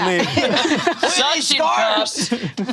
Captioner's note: all laughing